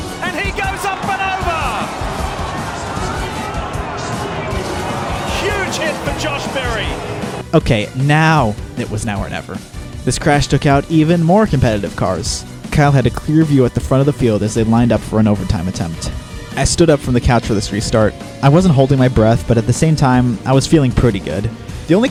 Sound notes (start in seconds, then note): 2.0 crowd clamoring